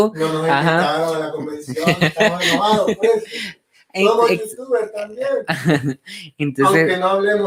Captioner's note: laughs